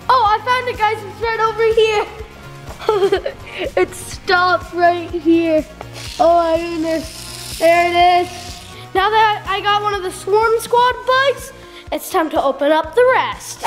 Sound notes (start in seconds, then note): 2.7 giggling